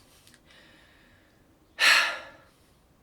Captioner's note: sigh